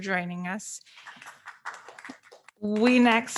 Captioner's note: audience members applauding